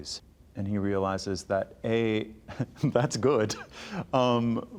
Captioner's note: chuckling